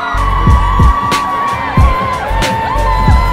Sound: applause

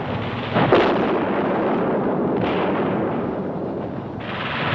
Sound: gunfire thundering; explosion booming

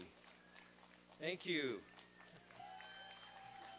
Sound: applause; applause and cheering

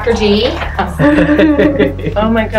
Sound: laughs

